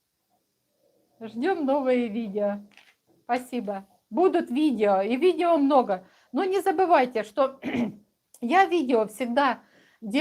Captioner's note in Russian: откашливается